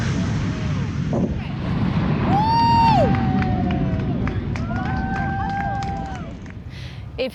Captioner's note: everyone claps